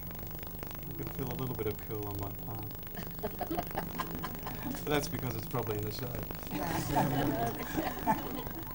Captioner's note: laughs; all laugh